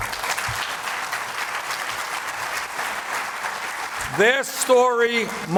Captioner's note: applause